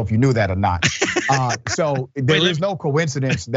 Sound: laugh

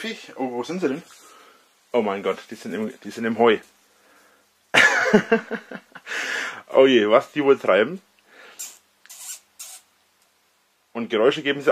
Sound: girlish giggle

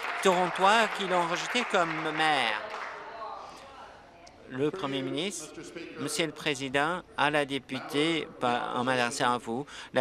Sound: applause

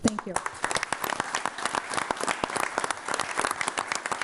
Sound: audience applauding

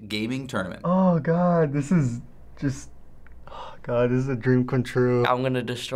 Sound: sighing

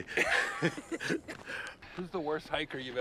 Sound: Kevin and Jeff laughing

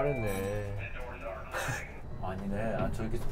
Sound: laughing

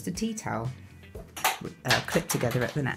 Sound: clattering

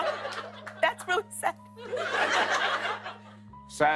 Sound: laughter

